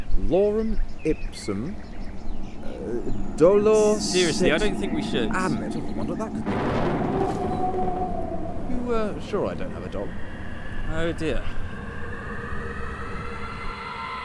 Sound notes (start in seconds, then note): 6.3 thunder; 6.8 dog howl; 12.0 screaming